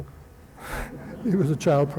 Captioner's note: laughter